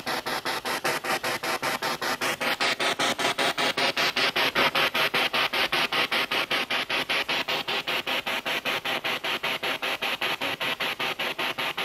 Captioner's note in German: Noise of the spiritbox in the background